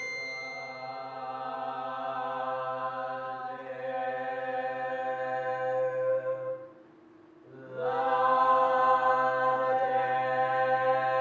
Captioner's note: chanting